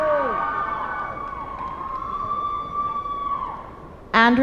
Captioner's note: cheers and applause